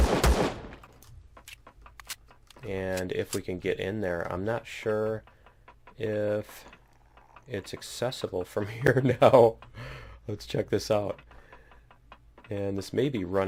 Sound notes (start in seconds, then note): 8.4 laughs